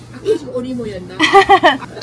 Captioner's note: awkward laugh 😂